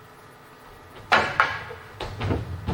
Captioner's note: whack whack